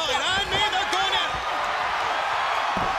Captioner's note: crowd chatter